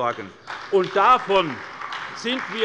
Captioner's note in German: Beifall bei der SPD